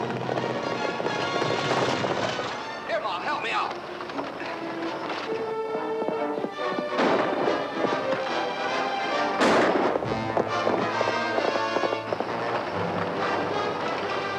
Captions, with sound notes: - Here, Ma, help me out. (suspenseful music) (gun firing)